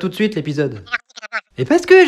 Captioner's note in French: voix provenant du téléphone